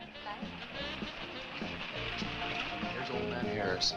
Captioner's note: engine rumbling